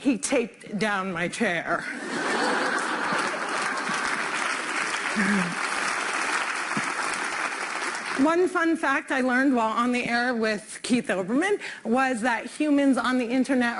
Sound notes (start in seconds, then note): 2.4 applause; 3.6 laughter